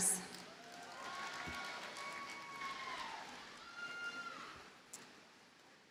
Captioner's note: audience cheers and applauds